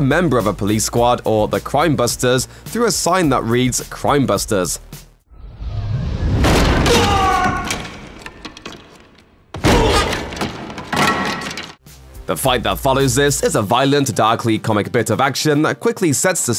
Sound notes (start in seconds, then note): 5.3 crash